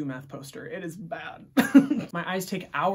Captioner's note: laughs